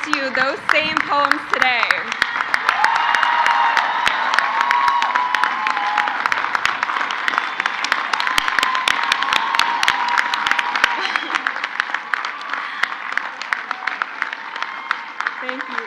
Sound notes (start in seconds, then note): 0.0 crowd cheers; 3.9 crowd cheers; 7.5 crowd applauds